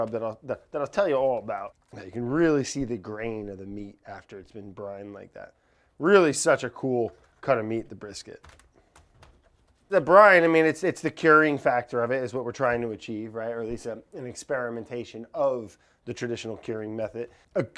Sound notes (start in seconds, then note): 8.3 lightly patting; 8.5 meat lightly thuds